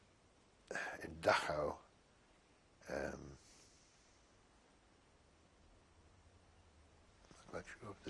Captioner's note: pauses for 3 seconds